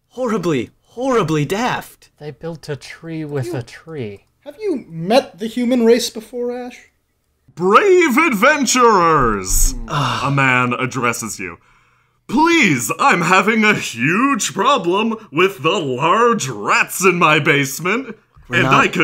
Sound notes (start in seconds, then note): 9.2 groans quietly